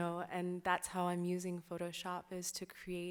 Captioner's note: none